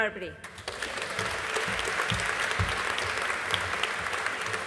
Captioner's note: audience applauding